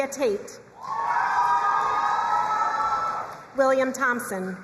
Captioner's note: crowd cheering and applauding